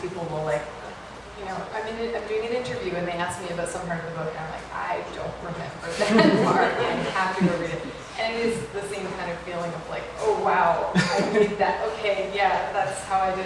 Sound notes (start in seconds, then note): 5.9 laughter